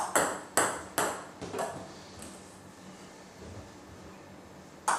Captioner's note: ball ping pong hitting continues